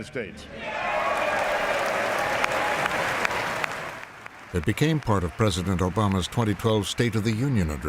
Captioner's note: audience cheers and applauds